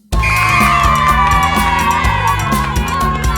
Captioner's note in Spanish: ovación